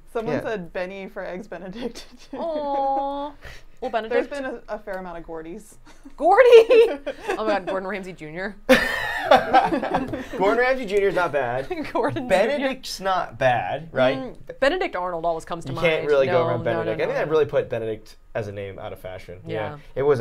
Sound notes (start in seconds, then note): 5.9 laughing